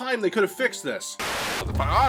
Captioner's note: TV buzzing